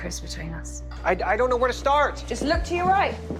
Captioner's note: voiceover